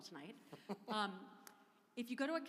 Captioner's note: laughing